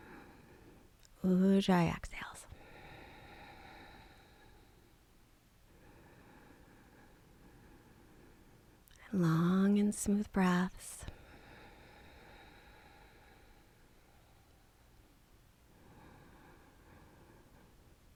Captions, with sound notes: (inhales) Ujjayi exhales. (exhales) And long and smooth breaths.